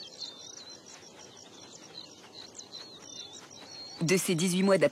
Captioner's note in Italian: cinguettii